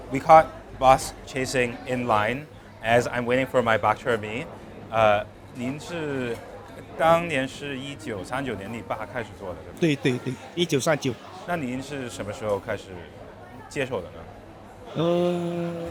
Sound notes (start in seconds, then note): 5.7 speaking in Mandarin